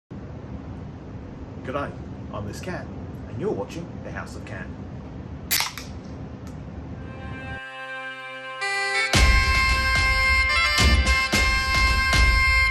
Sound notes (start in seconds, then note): 5.5 opens can; 7.0 celtic music